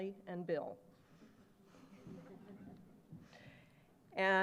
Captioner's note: laughter